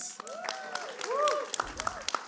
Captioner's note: cheering